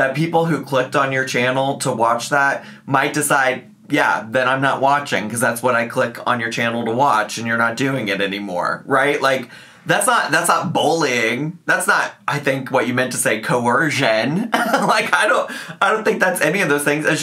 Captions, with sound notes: that people who clicked on your channel to watch that might decide, "Yeah, then I'm not watching 'cause that's what I click on your channel to watch, and you're not doing it anymore." Right? Like, that's not bullying. That's not, I think, what you meant to say, coercion. (laughs) Like, I don't think that's any of those things.